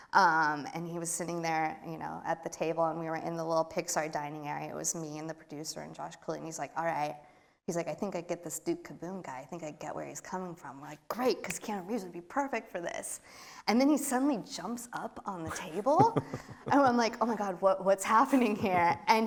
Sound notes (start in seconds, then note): 15.4 laughs